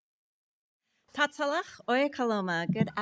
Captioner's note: speaking foreign language